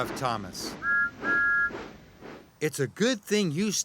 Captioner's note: toot toot